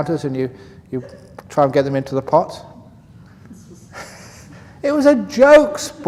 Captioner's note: laughs